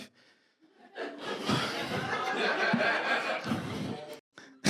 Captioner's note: audience laughs